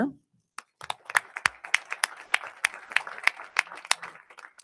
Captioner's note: audience applauding